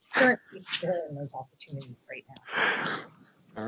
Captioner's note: distorted sound